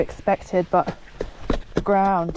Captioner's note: tap tap tap